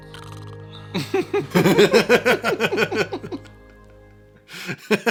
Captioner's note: snores